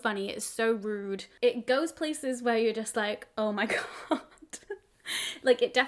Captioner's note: chuckles